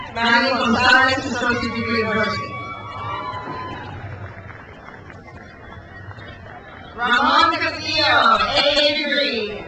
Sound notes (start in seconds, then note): 0.0 crowd cheers; 2.8 crowd cheers